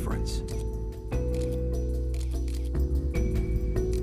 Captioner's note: camera shutter clicking